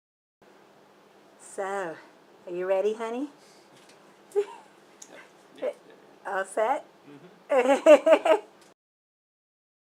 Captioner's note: laughs